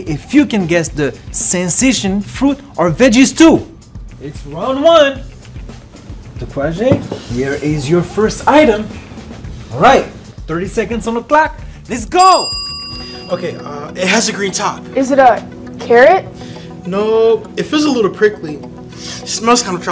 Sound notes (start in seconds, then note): 12.1 timer dinging; 18.9 sniffing